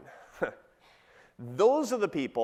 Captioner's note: chuckles